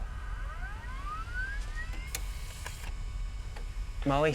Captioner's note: electronic whine